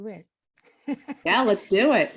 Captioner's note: laughs